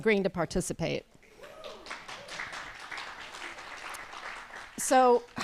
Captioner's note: applause